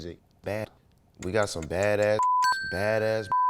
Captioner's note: beep